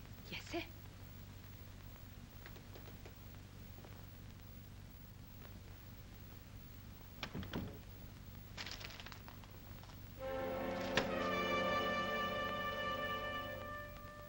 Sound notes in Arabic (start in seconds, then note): 7.1 يغلق الباب; 8.5 حفيف الورق; 10.2 موسيقى درامية مشؤومة